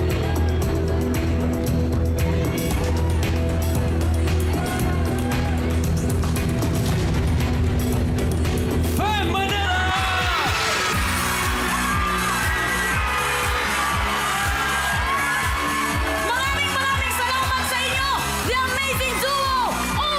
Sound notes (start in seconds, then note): 0.0 suspenseful music playing; 9.4 audience cheering; 10.5 theme music playing